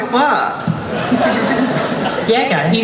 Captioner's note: audience laughs